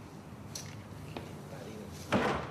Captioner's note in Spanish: susurra; golpes